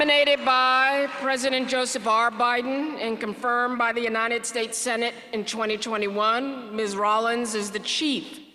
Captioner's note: applause